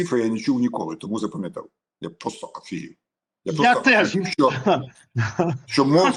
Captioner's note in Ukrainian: сміх